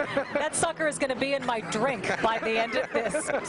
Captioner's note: laughter